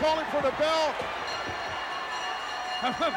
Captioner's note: bell ringing